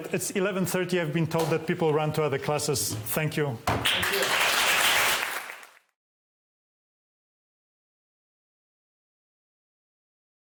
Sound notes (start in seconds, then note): 3.7 applause